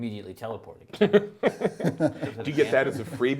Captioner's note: group laughs